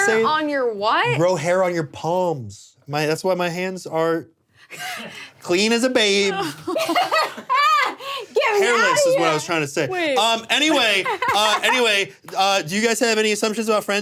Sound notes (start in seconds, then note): 6.3 laughs